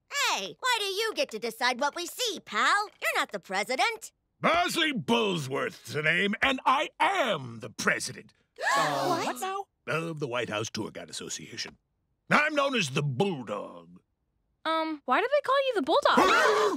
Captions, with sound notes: - Hey, why do you get to decide what we see, pal? You're not the president. - Bosley Bullsworth's the name, and I am the president... [all gasp] - What? - Of the White House Tour Guide Association. I'm known as the Bulldog. - Um, why do they call you the Bulldog?